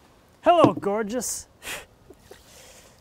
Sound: none

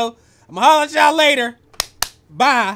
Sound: clap clap

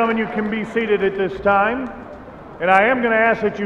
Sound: cheers and applause

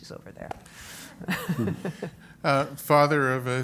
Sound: laughs

